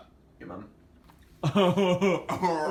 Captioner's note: laughs sarcastically; returns sarcastic noise